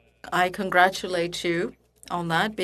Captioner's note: speaking French